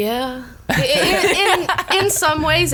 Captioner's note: laughs